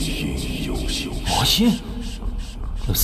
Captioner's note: demon Sound